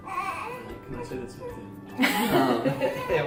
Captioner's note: he speaks under his breath; laughter